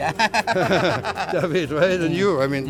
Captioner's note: laughs